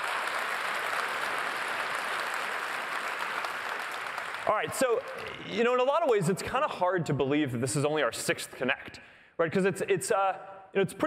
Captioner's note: applause